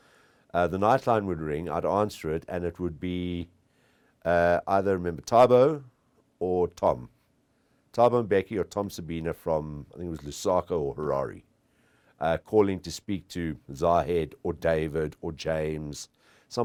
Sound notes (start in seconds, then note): none